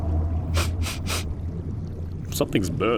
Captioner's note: sniffs the air